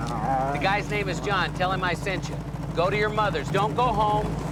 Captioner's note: none